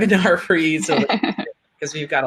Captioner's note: laughing